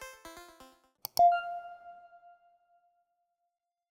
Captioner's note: beep